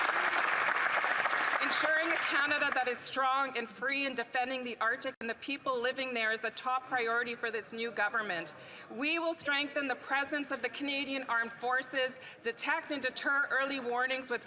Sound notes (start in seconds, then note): 0.0 applause